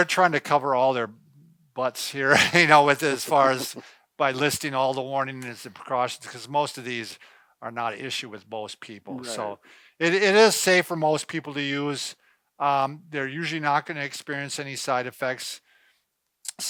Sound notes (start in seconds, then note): 2.2 laughs